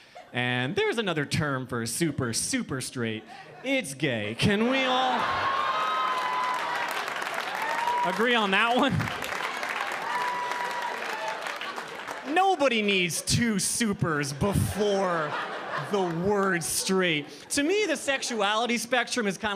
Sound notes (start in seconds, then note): 4.4 audience laughing; 9.1 audience applauding